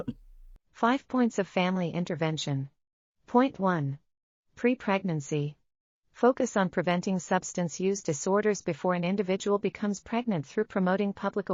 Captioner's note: audio Description being read